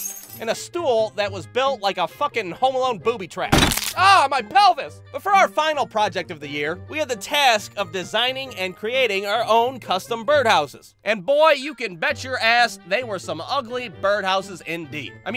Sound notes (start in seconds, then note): 0.0 thud, glass shatters; 3.5 thud, crack!